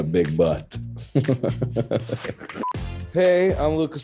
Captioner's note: laughing